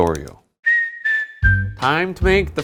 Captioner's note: melodic whistling